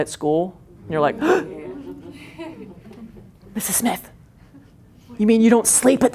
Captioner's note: gasps